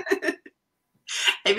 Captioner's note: laughter